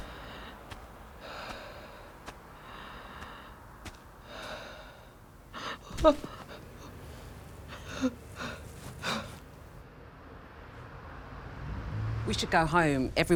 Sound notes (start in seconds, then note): 0.5 Grace panting; 0.5 Grace whimpering